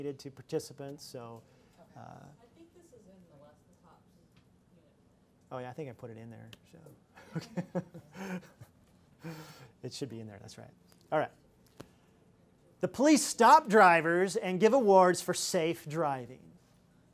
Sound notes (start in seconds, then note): 9.2 laughs